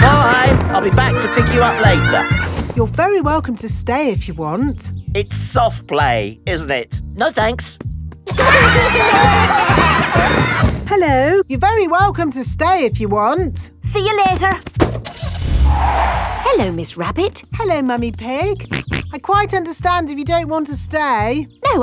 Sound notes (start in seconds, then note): 8.3 laughter; 15.1 car starting; 15.1 tires screeching; 18.9 snorts